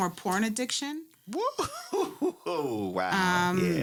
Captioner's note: laughs